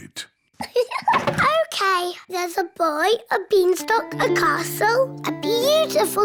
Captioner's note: laughs